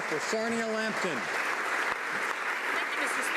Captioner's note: applause